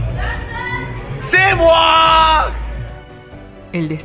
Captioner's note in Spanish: grito